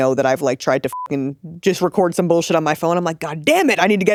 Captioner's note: beep